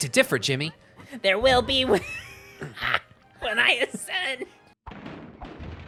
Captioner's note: Spongebob voice; cackling